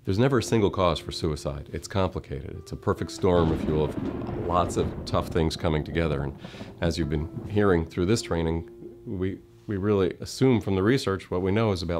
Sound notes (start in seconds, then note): 5.5 thunder in background